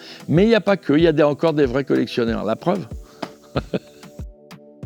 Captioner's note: laughs